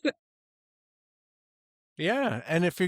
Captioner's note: laughing